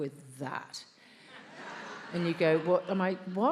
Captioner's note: attendees laughs